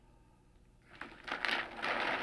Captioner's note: paper crinkling